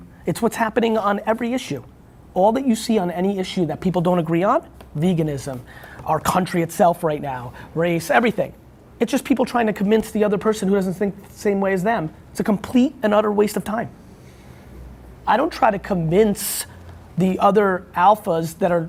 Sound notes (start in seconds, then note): none